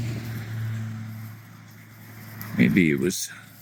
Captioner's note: engine noise